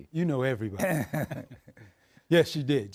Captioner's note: laughing